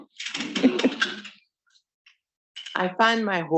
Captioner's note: students laughing